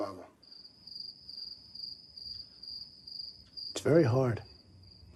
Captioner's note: crickets chirping